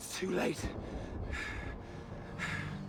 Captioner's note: breathing heavily